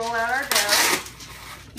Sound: paper tearing

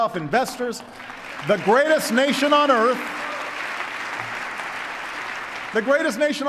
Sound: applause

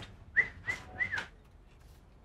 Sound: whistling

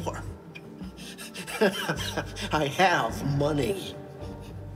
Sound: laughing

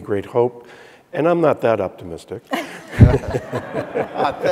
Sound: audience laughing

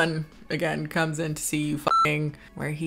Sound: beep

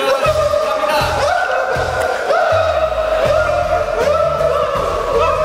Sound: is laughing but not doing poorly

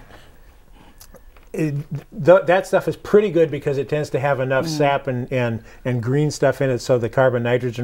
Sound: laughing

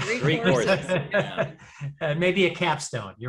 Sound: laughs

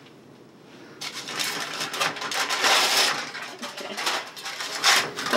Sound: foil tearing

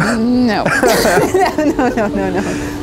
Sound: both laughing

